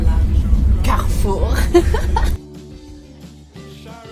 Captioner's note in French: rire